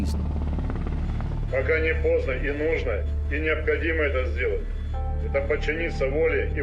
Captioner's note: helicopter blades whir; speaks in Russian